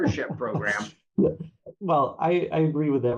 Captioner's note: laugh